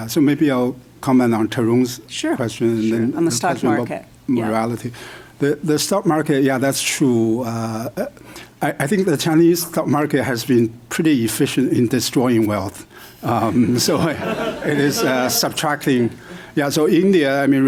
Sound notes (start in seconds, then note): 13.6 laughter